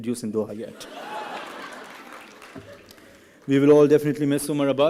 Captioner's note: laughing